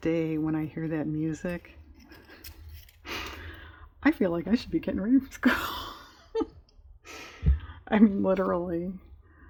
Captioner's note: laughs